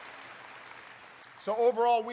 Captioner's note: applause